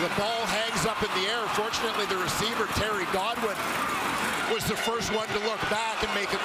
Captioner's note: crowd Noise